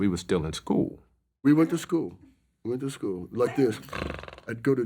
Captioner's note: snores